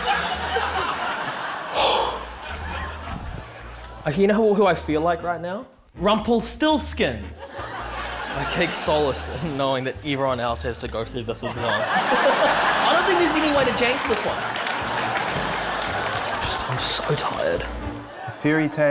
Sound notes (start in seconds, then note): 1.7 exhales